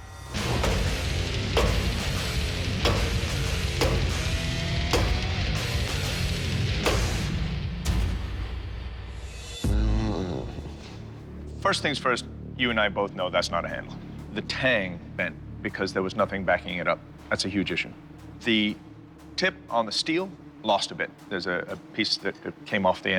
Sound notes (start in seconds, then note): 0.3 rock music; 9.6 grumbles